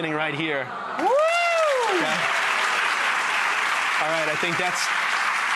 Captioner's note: audience applause